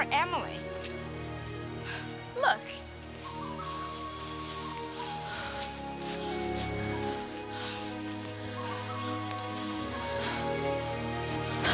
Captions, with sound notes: Poor Emily? Look. [PANTING].